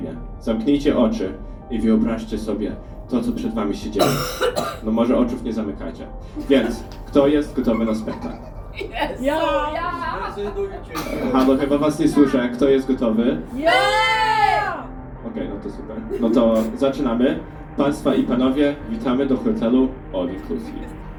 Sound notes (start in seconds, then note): 14.3 shouting